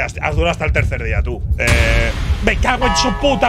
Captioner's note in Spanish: Estruendo